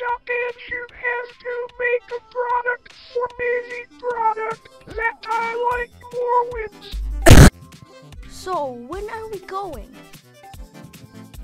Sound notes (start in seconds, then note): 7.1 covid cough